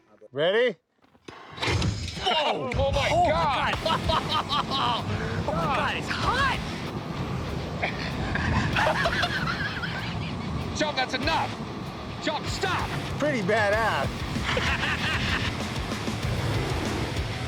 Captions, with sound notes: - Ready? - Whoa! - Oh, my God! - Oh! - It's hot! It's hot! - Oh, my God, it's hot! [laughter] - Chum, that's enough! Chum, stop! - Pretty badass. [heavy metal music]